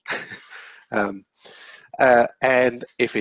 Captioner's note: chuckling